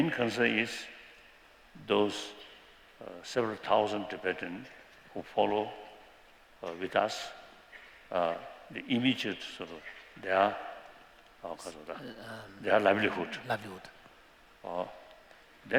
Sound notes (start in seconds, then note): 9.7 non-english